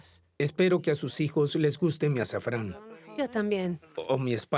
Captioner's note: Arabic spoken audio